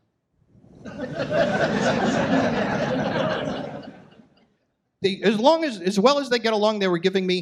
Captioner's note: audience laughs